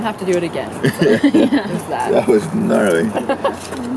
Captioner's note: laughing